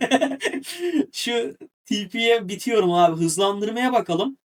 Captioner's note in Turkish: kahkaha